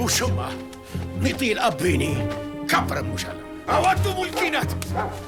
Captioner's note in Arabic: الصوت المنطوق البدوي